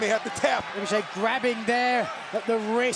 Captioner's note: cheers and applause